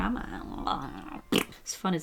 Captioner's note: blows raspberry